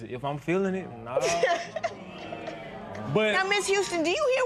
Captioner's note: spectators murmur